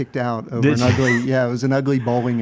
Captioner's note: wheezes